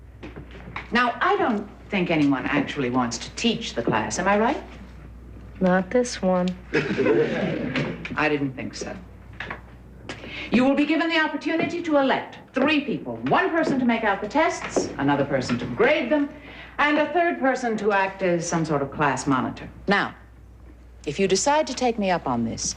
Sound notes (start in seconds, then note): 6.7 laughter